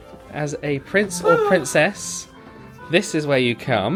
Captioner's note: swooning